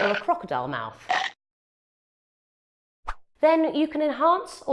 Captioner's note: crocodile chomps